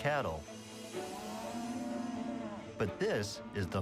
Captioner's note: cows mooing